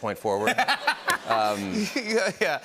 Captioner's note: laughter